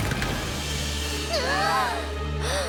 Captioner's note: gasps; all gasp